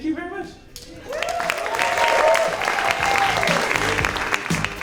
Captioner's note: audience applauding